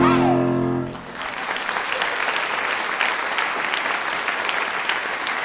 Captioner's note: audience applauding